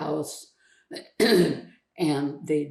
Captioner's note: clears throat